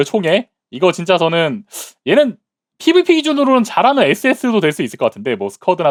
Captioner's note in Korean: 콧방귀